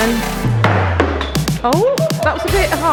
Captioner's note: ball clattering